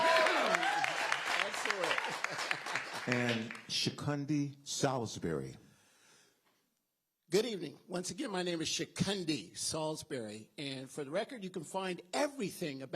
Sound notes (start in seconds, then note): 3.5 applause